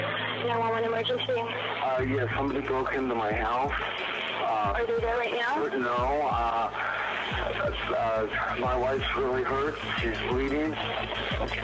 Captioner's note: on phone